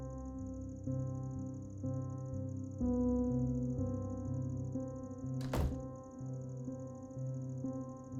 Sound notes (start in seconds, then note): 5.4 door closes